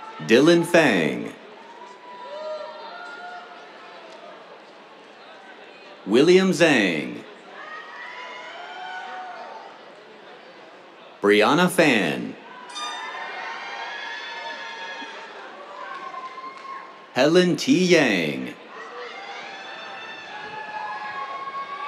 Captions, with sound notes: Dylan Feng. [CHEERS] William Zhang. [CHEERS] Brianna Fan. [AIR HORN BLARES] [CHEERS] Helen T. Yang. [CHEERS]